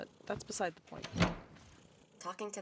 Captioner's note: door opens